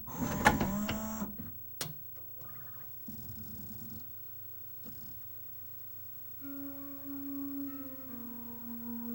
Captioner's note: tray motor moves to play disc; and now laser clicks, disc spins-up, laser seeks and music plays